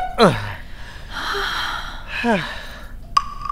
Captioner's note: Both exhales